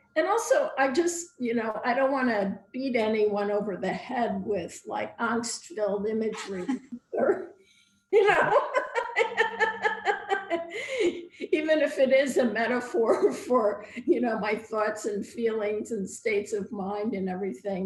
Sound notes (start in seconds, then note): 8.2 laughter